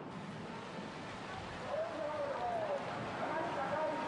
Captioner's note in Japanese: スピーカーを通した男性の声